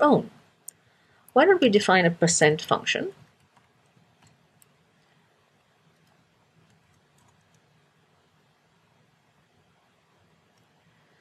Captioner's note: pause